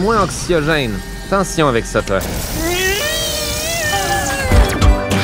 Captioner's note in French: grésillement de rayon laser, cri angoissé